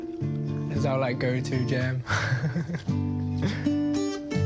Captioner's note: laughs